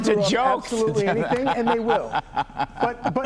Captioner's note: laughter